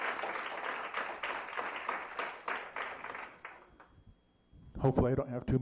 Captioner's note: applause